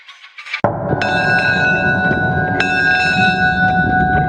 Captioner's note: bell ringing